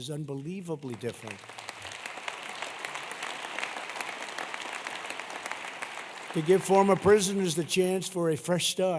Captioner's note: applause